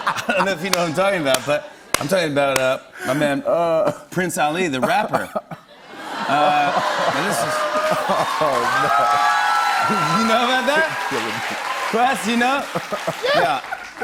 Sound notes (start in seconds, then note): 0.0 laughter; 6.1 cheers and applause